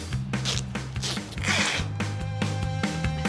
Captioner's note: tape unwrapping; upbeat music